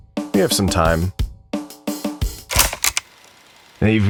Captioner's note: tape Click